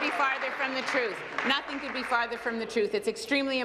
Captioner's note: applause